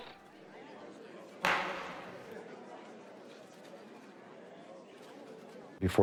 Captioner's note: quiet murmuring in court room